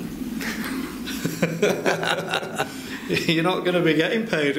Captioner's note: laughing